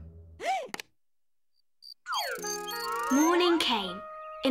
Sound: Imelda gasps

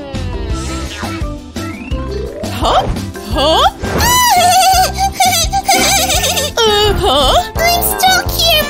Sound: happy screams

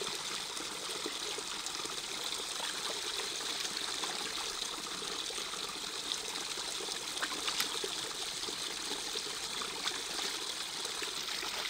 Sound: sound of water

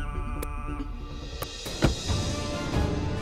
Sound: car trunk closing

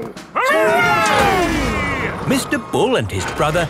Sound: all cheering

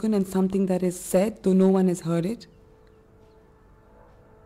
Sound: airplane engine roaring

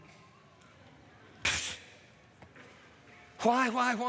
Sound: scoffs

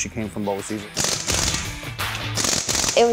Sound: sound of power tools

